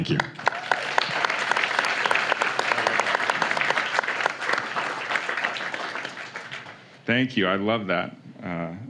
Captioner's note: applause